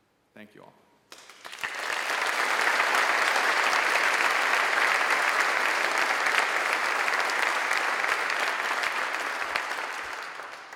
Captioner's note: applause